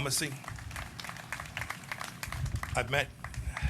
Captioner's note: applause